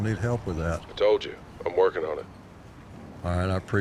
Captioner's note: on phone